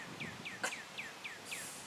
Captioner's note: sob